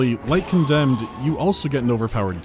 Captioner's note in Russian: крик Марва